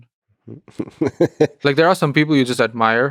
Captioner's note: Lex laughing